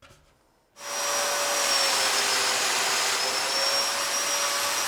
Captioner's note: saw whirring